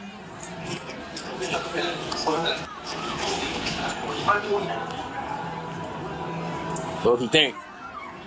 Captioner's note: background club noise